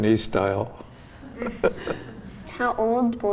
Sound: laughing

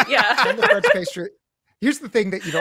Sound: laughs

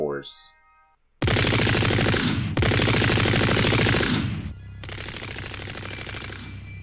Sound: machine Gun Fire

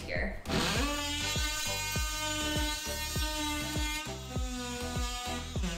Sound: upbeat music; saw whirring

